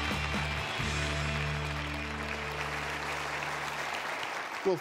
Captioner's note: applause